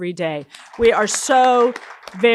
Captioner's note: audience applauding